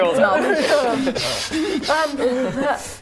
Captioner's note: huffing